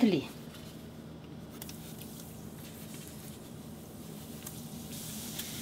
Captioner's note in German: Knistern des Öles